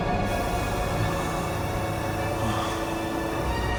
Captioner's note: gas hissing